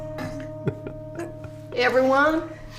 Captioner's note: giggling